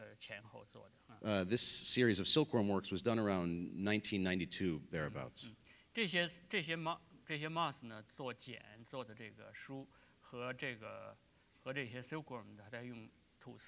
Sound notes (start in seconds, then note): 7.4 speaking in Chinese